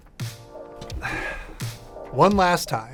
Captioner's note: sighs